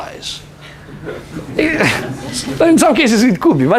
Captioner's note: laughter